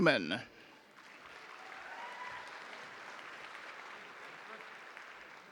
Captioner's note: audience applauding